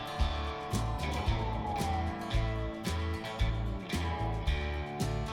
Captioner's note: police siren wailing